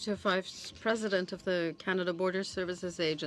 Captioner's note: speaking French